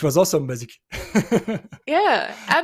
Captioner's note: laughs